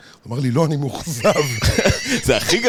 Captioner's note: laughs